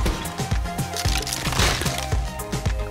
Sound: cracking

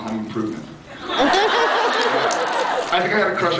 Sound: laughs

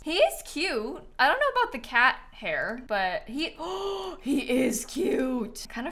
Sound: gasps

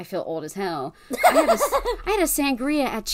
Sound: laughs

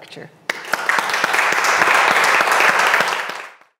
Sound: audience clapping

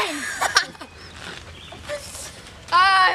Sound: laughter

